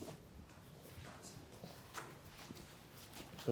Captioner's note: footsteps